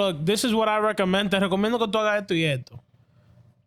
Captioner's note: speaking In Foreign Language